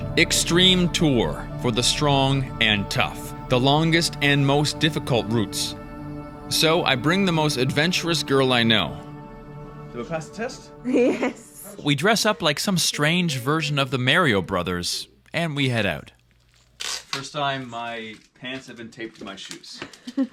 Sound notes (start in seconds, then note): 10.9 laughs